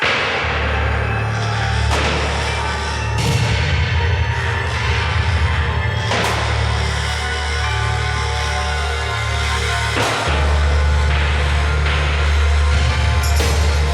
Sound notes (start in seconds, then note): 0.1 electrical buzzing over menacing orchestral music; 6.2 beam cracking; 7.0 electrical buzzing and cracking over tense orchestration